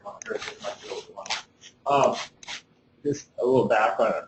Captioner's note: scuffling